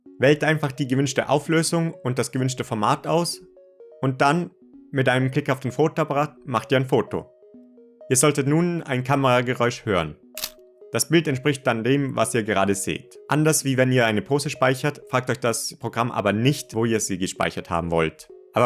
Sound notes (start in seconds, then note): 10.3 camera sound